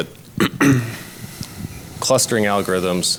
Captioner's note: clears throat